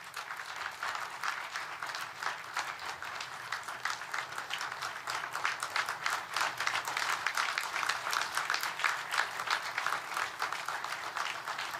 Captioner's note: applause